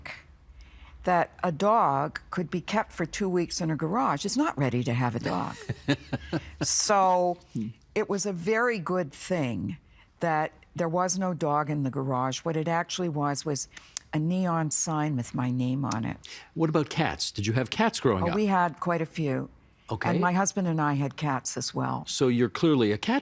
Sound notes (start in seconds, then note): 5.4 laughing